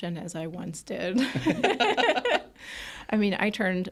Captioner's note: group laughing